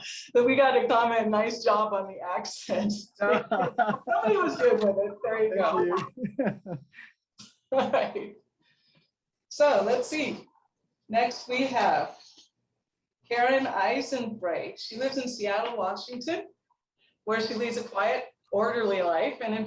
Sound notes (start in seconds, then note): 3.2 laughing